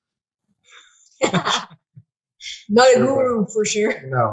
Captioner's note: laughing